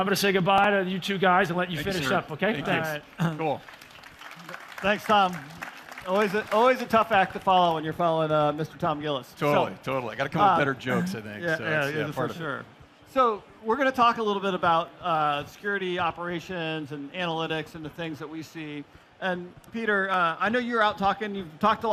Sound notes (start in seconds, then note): 8.0 applause